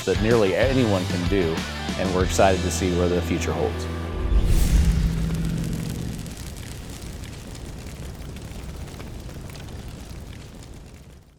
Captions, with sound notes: that nearly anyone can do. And we're excited to see what the future holds. [Fire Crackling]